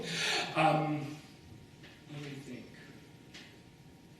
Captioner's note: laughs